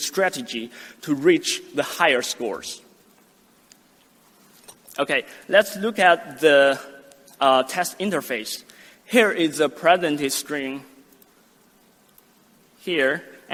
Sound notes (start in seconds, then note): 11.5 mouse clicks